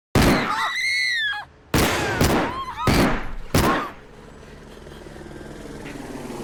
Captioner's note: suspenseful music; screaming; gun firing; helicopter whirring